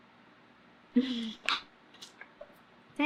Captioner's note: laughs